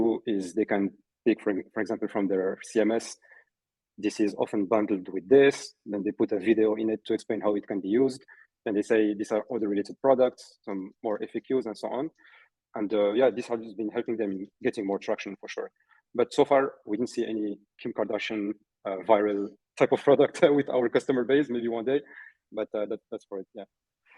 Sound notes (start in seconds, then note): 21.3 chuckling